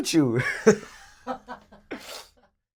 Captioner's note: laughter